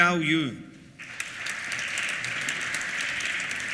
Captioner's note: applause